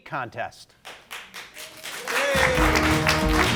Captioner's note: audience applauding; upbeat music